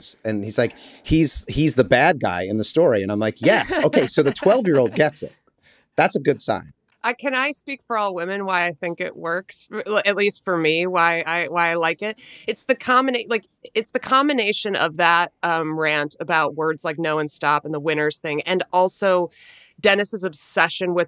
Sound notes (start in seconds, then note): 3.4 laughs